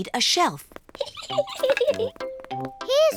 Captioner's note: giggles